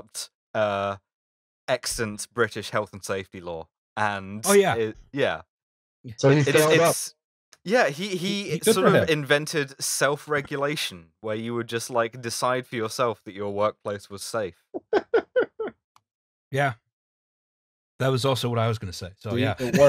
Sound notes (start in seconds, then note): 14.8 laughter